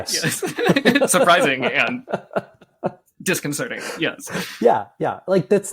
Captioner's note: laughs